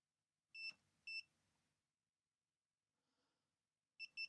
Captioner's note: blank Audio